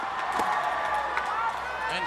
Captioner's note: audience cheers